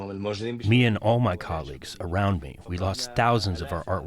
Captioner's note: through translator